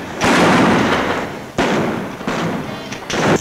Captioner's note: guns bang